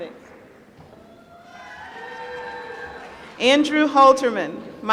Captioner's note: applause